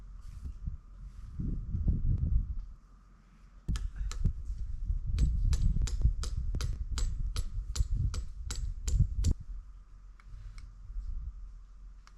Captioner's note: hammer tapping